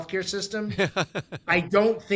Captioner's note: laughing